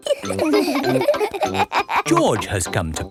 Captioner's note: all laughing